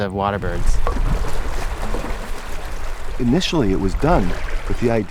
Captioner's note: water flowing